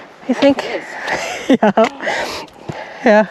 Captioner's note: laughs